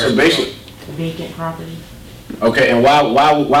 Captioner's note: voiceover